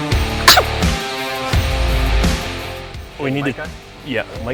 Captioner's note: sneeze